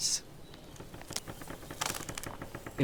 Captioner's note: trees creak